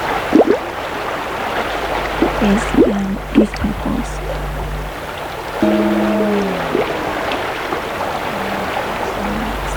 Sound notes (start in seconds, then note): 1.9 bubbling and running water continues; 5.5 distorted popping sound